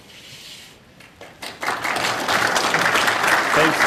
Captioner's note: applause